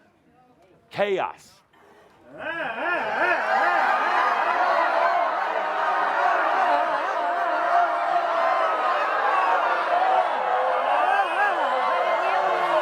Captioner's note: leads the audience in making lots of chaotic noises